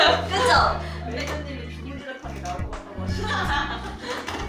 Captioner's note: haha